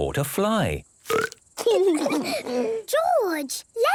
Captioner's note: burps